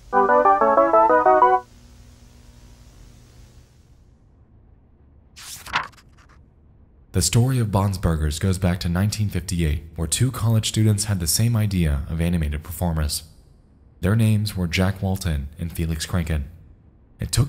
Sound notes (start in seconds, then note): 0.1 triumphant jingle; 5.4 paper flicks